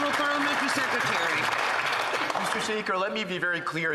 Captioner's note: some Applause